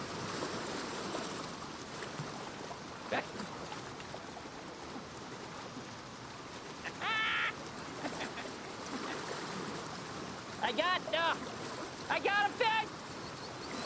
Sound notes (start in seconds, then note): 6.8 laughing